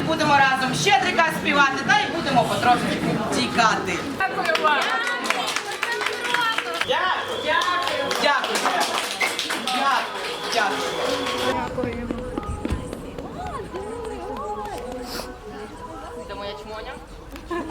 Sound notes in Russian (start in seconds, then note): 4.3 гучні оплески та невимовна подяка